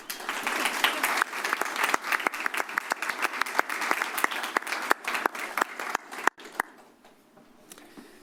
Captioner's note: applause